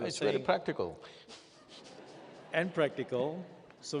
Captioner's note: laughs